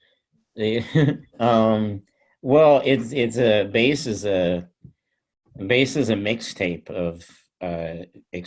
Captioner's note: chuckles